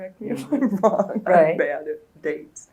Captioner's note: laughs